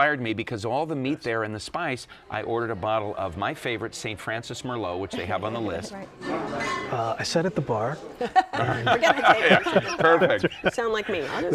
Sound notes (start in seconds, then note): 8.1 laughter